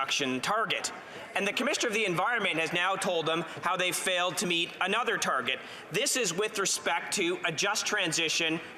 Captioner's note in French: voix de l'interprète